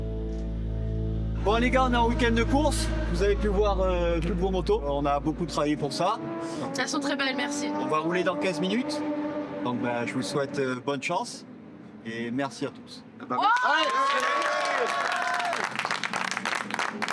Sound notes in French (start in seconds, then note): 13.5 applaudissements